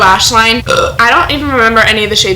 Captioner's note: burp